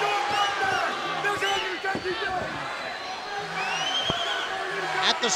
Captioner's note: Harris brothers shouting